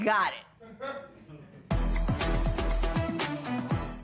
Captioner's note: laughter